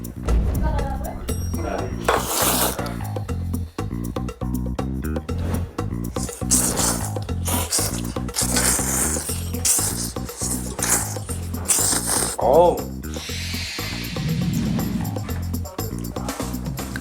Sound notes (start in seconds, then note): 5.5 double Slurping Event